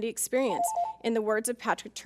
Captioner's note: timer chimes